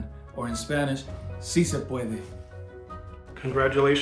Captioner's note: speaking Spanish